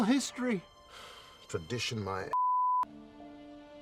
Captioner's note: sighing